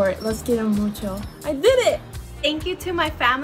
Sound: speaks in foreign language

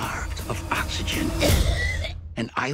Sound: coughs

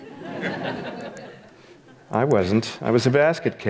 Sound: audience laughs

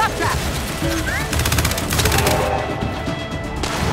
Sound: gunfire

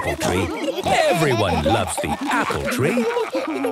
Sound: laughter; laughter

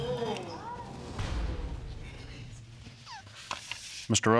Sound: audience exclaiming

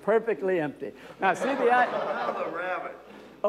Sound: audience laughter

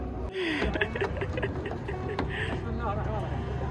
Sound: chuckling

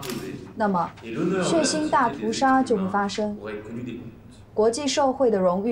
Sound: French

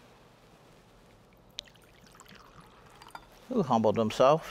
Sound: wine sloshing

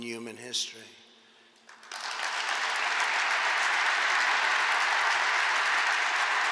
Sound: applause

